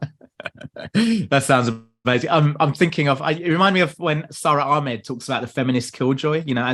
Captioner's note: laughs